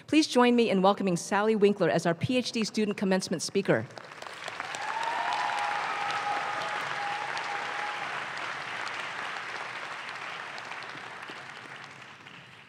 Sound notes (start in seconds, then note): 4.0 audience claps